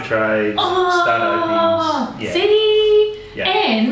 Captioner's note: groans